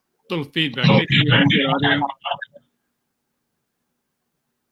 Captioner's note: microphone feedback